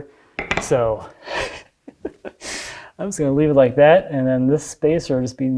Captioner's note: laughs